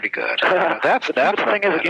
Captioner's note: laughs